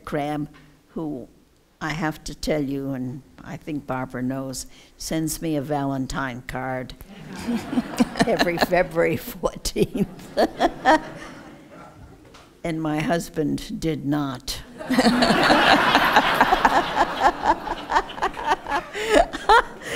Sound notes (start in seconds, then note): 7.1 laughter; 14.7 laughter